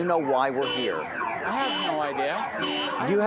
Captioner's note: car alarm blaring